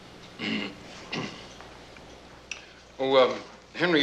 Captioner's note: Henry clears throat